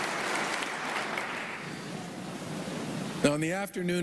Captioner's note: applause